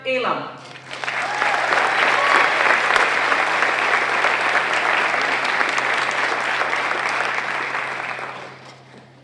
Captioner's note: applause